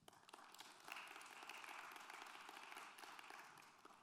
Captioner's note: applause